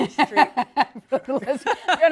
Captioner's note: laughter